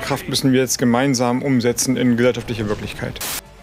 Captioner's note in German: Rauschen